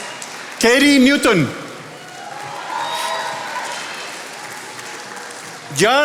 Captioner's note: attendees applauding